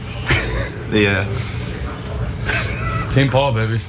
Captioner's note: laugh